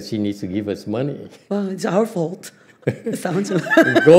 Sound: laughs

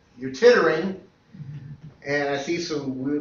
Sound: laughter

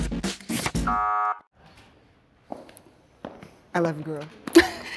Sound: buzzer sound

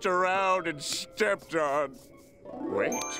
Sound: none

